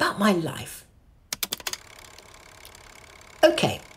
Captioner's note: the projector whirrs into action